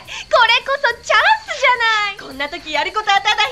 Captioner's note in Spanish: Hablando en Japonés